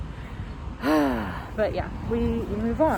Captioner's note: sighs loudly